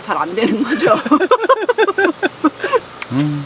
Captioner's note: laughs